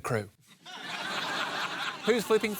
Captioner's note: laughter